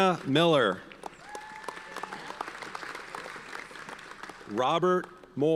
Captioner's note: audience cheers and applauds